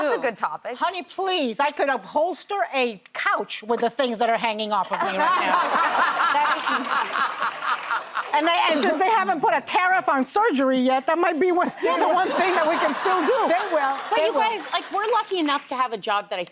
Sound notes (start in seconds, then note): 5.0 laughter